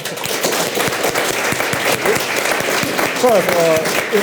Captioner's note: audience applauds